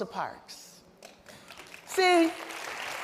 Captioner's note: applause